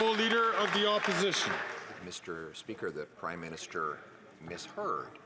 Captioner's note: applause